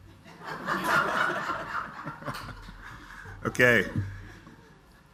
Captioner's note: audience laughs